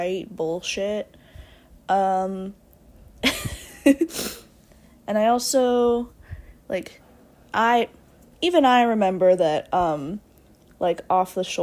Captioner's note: laughs